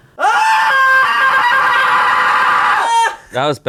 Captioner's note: screams